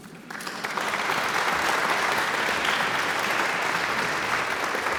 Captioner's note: audience applauds